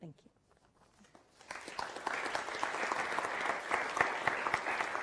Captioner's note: audience applauding